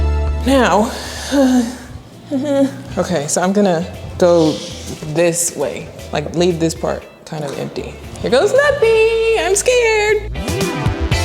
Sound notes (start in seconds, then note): 1.7 laughing; 11.0 upbeat music